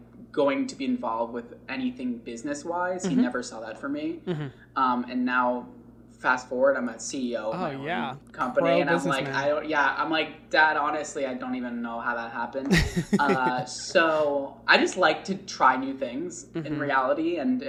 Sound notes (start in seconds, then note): 12.6 laughs